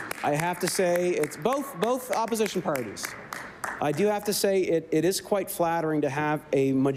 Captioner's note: applause